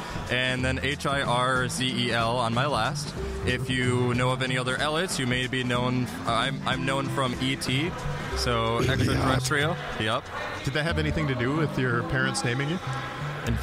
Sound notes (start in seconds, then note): 9.1 mimicking ET